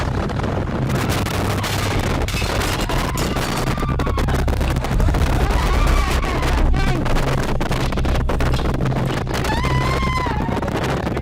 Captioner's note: explosion; screaming